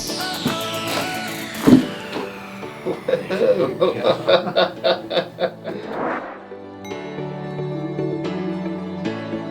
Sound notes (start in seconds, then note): 2.8 laughing; 6.8 upbeat music